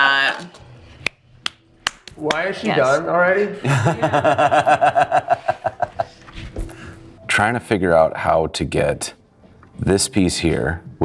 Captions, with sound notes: - Why is she done already? (laughing) - Trying to figure out how to get this piece here,